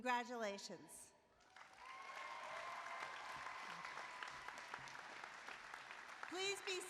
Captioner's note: applause